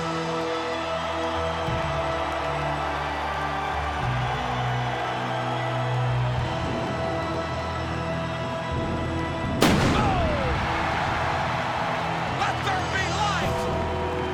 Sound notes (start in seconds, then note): 0.1 audience applauds and cheers; 2.2 ominous music continues; 9.6 pyro bangs; 11.2 audience cheers